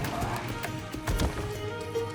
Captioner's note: pump initiates